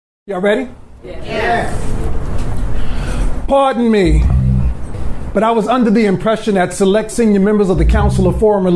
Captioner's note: crowd